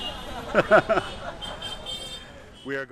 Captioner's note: laughs